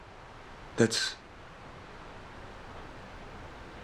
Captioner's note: none